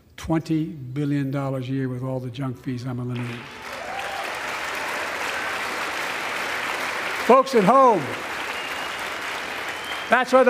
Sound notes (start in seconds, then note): 3.1 applause